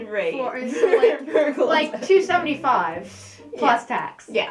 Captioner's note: laughing